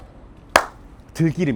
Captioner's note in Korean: 짝!